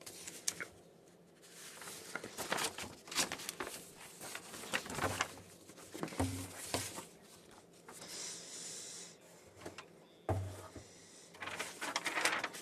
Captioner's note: speaking French